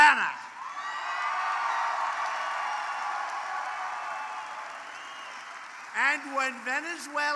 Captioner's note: applause